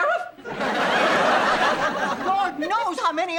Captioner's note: audience laughing